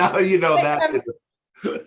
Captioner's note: chuckling